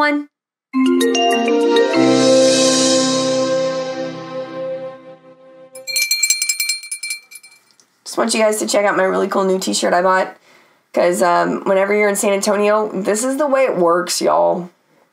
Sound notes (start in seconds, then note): 0.7 cheerful music; 5.7 bell rings